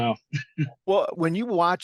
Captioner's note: laugh